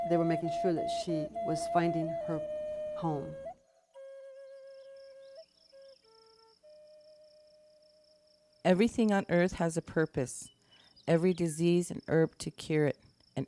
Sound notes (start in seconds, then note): 4.2 crickets chirping; 4.2 gentle flute music